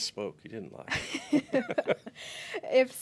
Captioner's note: laughs